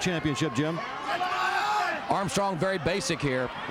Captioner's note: crowd chatter